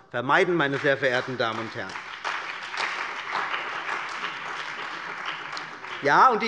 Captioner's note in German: Beifall bei der CDU und dem BÜNDNIS 90/DIE GRÜNEN